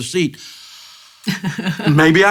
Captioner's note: gasps